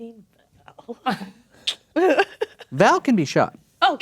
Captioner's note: clicks tongue; laughs